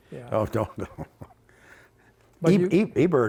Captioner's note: chuckles